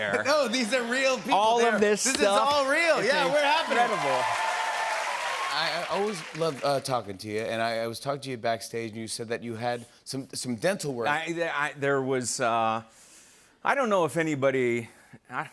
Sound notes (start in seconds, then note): 2.4 cheers and applause